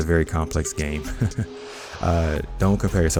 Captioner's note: laughs